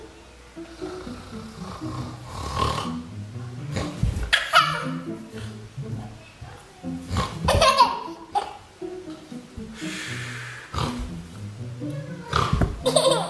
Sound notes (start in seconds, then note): 4.4 laughing